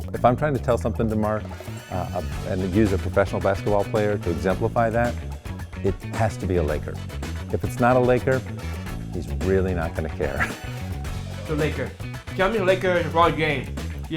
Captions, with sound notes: If I'm trying to tell something to Marc and use a professional basketball player to exemplify that, it has to be a Laker. If it's not a Laker, he's really not gonna care. (chuckles) - The Lakers. My favorite Lake is LeBron James.